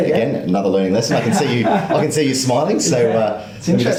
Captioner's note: laughs